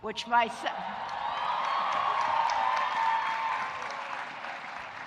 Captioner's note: audience cheering